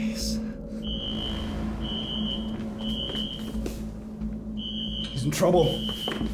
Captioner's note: tense music; alarm screeching